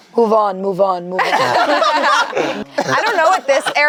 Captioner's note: group laughs